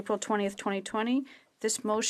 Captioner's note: speaking French